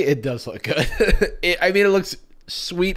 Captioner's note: laughs